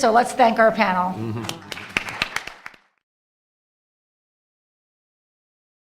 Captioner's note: audience applause